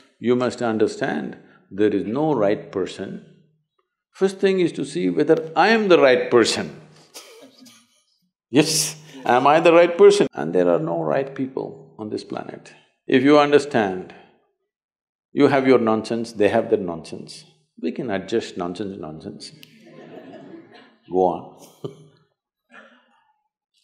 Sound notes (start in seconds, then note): 9.1 laughs; 19.7 laughter; 22.8 laughs